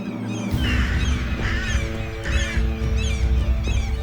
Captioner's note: angry cawing